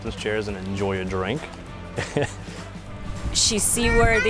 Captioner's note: chuckles